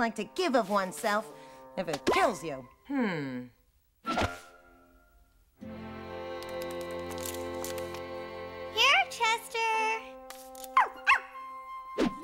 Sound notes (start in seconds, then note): 10.8 barks